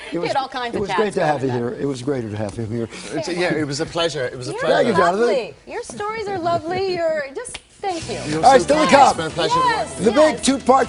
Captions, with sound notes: THEATERS ON FRIDAY. IT IS ALSO AVAILABLE ON DEMAND. I DO NOT HAVE A BUTTERFLY ON MY BACK. [LAUGHTER] IT WAS GREAT TO HAVE YOU HERE.